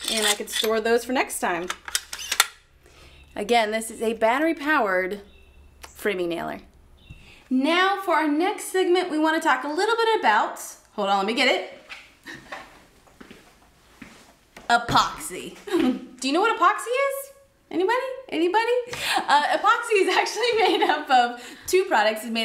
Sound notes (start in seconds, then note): 2.3 clicking; 15.6 laughter; 20.4 laughter